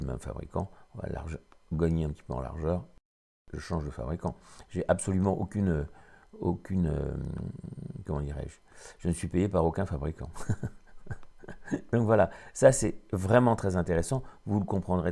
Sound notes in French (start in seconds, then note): 13.0 rire